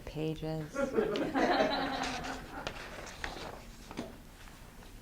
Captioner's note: students laughing